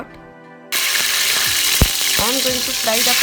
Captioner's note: sizzling